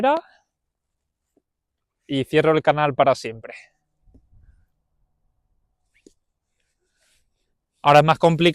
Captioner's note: pause 3.7s